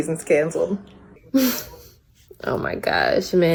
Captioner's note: laughs